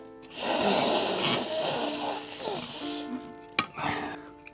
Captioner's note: snorting sound